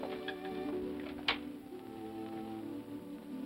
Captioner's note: sentimental music; door opens; sentimental music